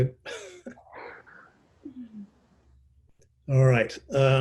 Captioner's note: chuckles